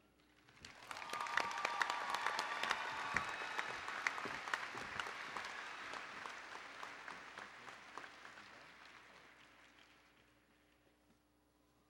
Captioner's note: applause and Cheering